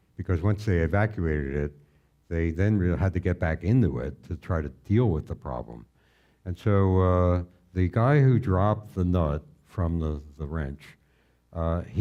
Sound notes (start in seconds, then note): none